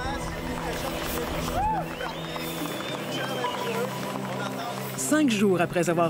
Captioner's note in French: acclamations